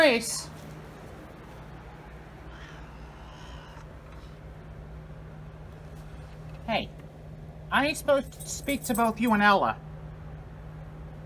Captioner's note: Caprice yowls